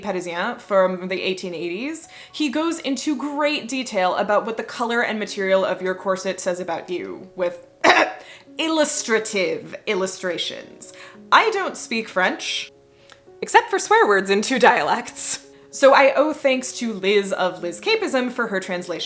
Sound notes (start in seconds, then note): 7.8 cough